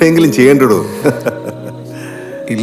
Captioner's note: doctor laughing